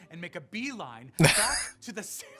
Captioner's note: laughing